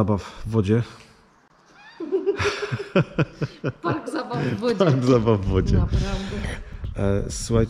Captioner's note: laughs